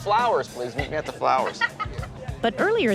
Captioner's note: laughs